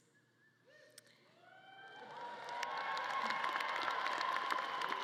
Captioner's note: audience claps and cheers